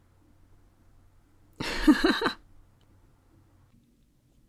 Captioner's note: laugh